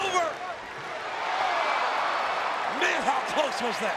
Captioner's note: crowd clamoring